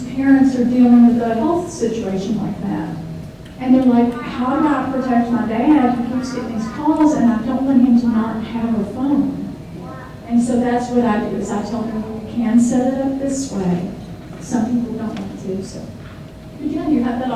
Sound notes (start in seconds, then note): 4.0 child in audience chatters